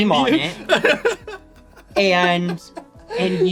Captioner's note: laughs; can't stop laughing